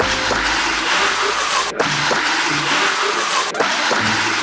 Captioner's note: water guns fired